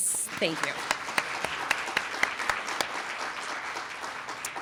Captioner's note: applause